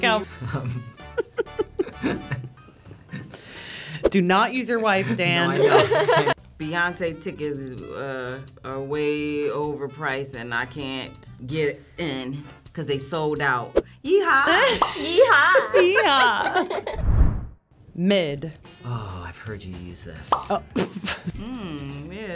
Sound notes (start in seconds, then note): 0.6 chuckles; 5.3 laughs; 14.5 chuckles; 21.1 laughs